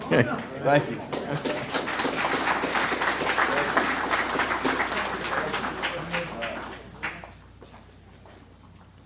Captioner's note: applause